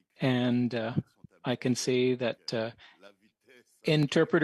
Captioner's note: speaking French